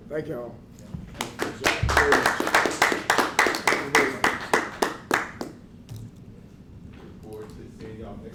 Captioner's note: applause